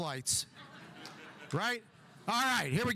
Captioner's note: audience chuckling